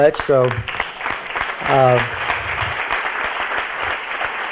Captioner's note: audience applauds